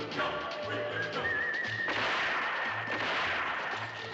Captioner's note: gunshot